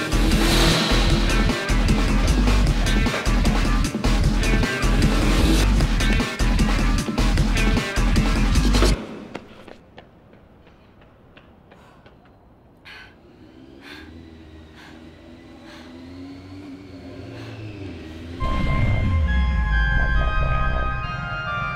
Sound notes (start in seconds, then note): 14.0 engine noises in the distance; 18.5 tense theme music